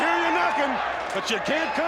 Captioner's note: crowd cheering